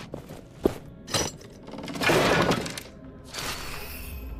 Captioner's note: metal clanking